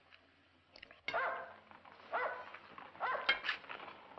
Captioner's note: dog barking